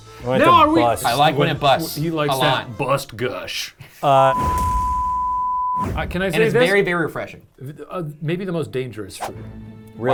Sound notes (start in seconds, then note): 4.2 digital beep; 4.6 air swoosh